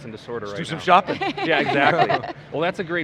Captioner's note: laughs